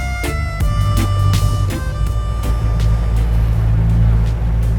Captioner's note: boat humming